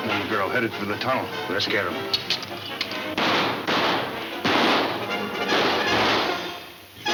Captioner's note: dramatic music; guns banging